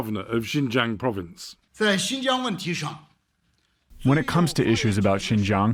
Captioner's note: through translator